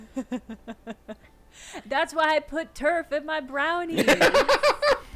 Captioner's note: laughing